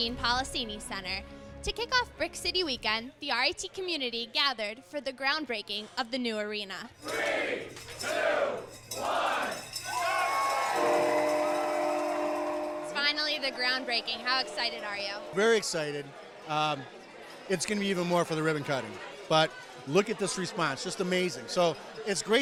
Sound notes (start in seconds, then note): 8.9 cheering